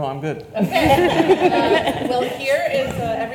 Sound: panelists laugh

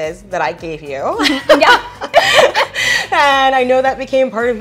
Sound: laughter

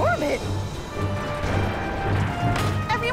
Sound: crashing noise

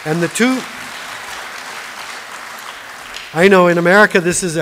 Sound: applause

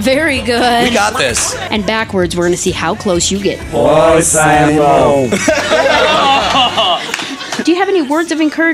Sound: laughter; laughter

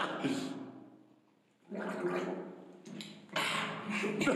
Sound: gargles and swallows; laughing

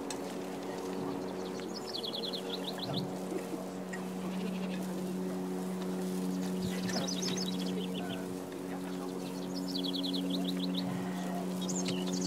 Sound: birdsong, forest sounds

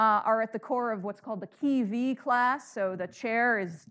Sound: speaking in foreign language

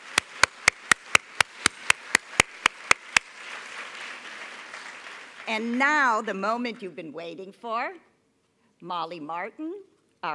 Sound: applause

